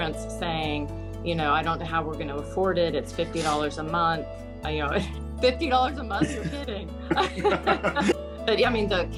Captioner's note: laughing